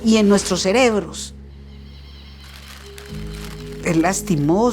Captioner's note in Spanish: Chillido de pájaros